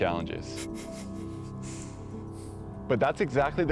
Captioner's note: chuckles